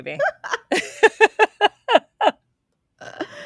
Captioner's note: laughing